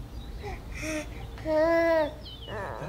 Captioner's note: child cooing